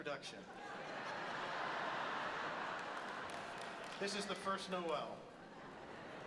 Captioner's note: audience laughs